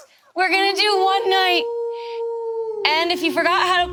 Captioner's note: wolf howling